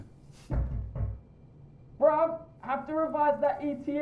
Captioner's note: knocking